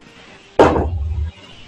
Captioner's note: thud